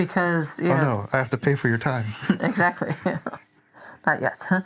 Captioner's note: laughs